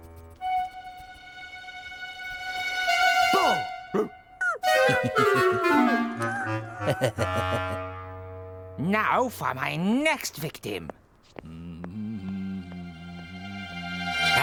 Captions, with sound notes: BOO! RUFF?! ( Yelps ) ( Norman Snickers ) ( Dog Whines ) NOW FOR MY NEXT VICTIM. ( Approaching Footsteps ) ( Humming )